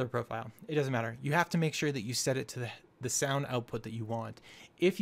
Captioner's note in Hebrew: פלט קול